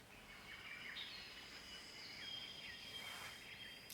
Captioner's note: birds chirping